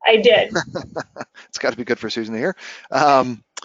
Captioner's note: laughing